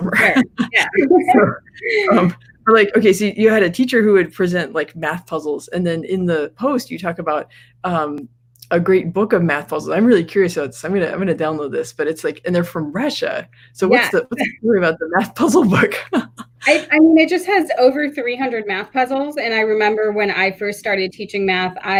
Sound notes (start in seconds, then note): 16.0 laughs